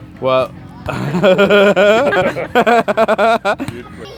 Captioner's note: laughs